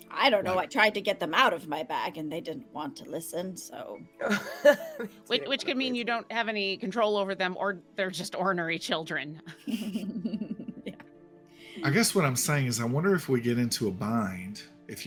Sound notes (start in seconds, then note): 4.2 laughing; 9.5 laughing